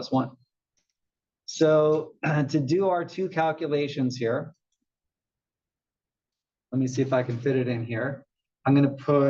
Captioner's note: cough